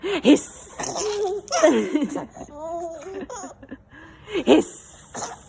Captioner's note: laughing; laughs